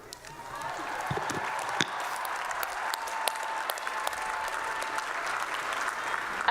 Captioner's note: applause